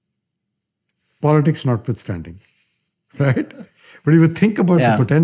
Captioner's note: laughter